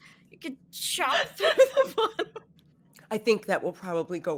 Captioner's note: laughs